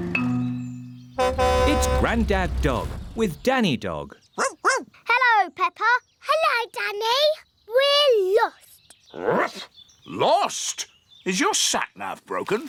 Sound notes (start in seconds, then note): 1.2 horn honks; 4.4 barking; 8.5 barks